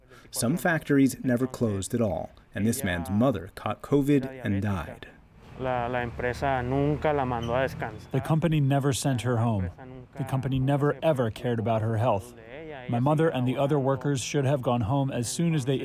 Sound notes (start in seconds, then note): 5.8 through translator